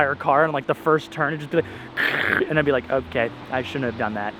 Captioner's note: mimics car failing